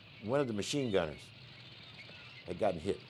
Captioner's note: moving tank echoes